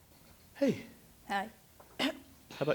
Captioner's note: clears throat